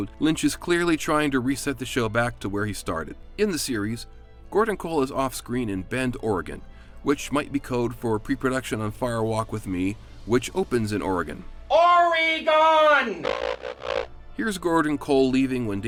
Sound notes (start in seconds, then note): 13.2 radio buzzing